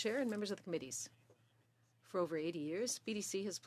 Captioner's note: speaking French